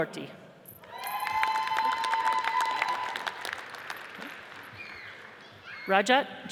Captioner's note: audience cheers and applauds